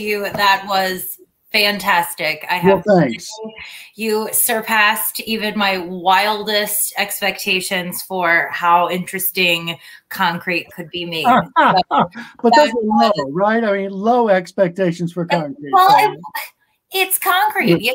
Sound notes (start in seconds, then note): 11.2 laughter